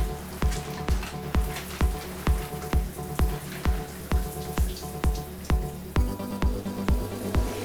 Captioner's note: shower noises